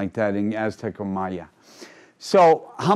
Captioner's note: speaking in foreign language